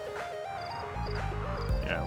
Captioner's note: upbeat electro music; insects chirping